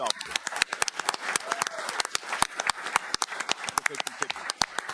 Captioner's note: audience clapping